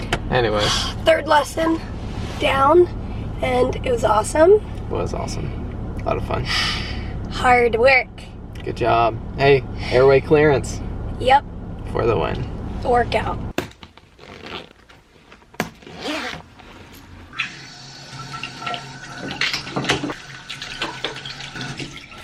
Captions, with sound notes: Anyway. Third lesson down and it was awesome. It was awesome. A lot of fun. Hard work. Good job. Hey, airway clearance. Yep. For the win. Workout. [zippers unzipping] [water running]